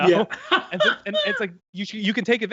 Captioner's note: laughs